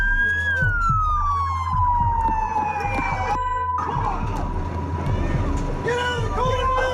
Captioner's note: siren